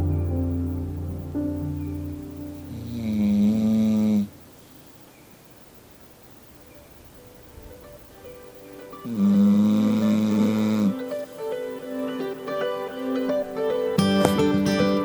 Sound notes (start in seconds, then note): 3.7 Bella snoring